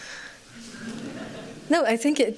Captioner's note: laughter